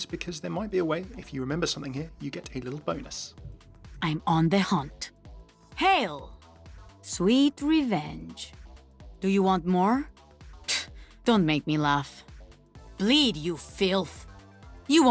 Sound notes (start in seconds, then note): 10.7 scoffs